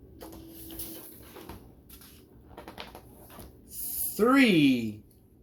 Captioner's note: paper rustles